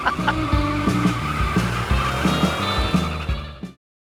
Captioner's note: tires squealing